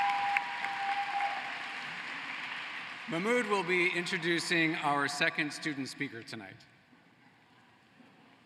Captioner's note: cheering and applause